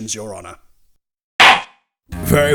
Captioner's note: gavel slams!